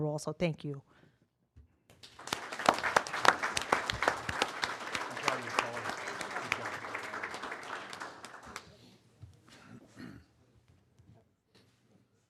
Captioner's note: applause